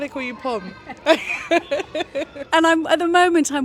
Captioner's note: both laugh